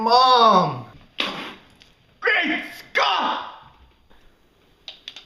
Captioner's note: loud spit-take